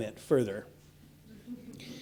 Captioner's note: laughing